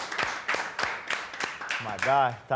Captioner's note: applause